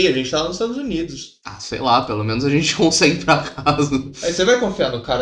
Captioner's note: laughing